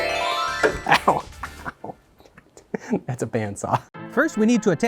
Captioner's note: metal banging